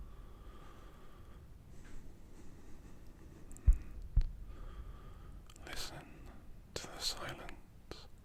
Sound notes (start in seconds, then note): 3.6 heartbeat